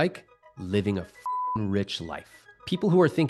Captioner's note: beep